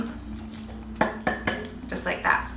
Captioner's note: fingers drumming